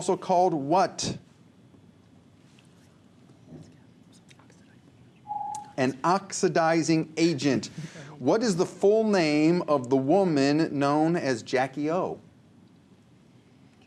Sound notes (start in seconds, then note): 3.1 whispers; 5.3 ringing